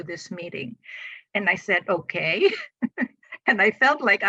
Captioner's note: chuckles